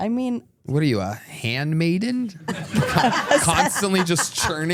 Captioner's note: everyone laughs